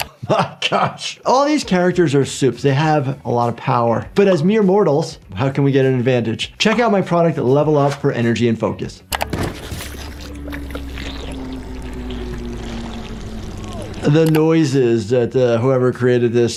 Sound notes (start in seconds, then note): 9.3 head gurgling